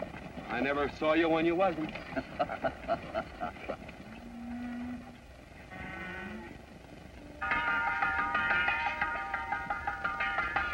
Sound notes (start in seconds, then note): 2.0 laughter; 7.4 bell ringing